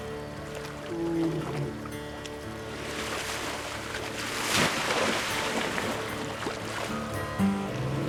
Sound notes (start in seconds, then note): 1.0 roars softly